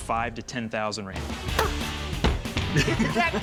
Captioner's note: laughter